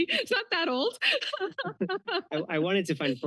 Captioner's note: laughs